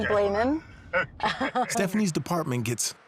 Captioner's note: laughs